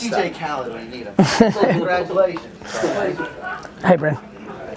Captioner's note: Gary laughs